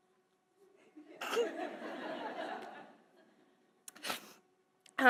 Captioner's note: audience laughing